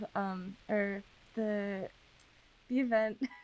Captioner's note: laughs